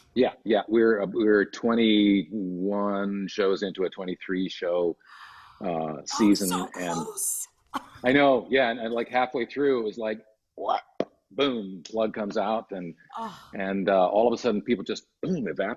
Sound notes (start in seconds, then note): 5.6 laughs